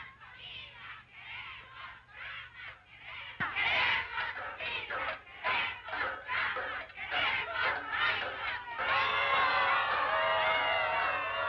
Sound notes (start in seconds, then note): 2.7 women chanting slogans in Spanish; 8.7 women booing